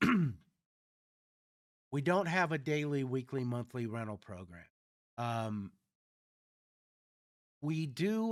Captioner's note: clears throat